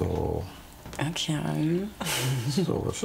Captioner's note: she murmurs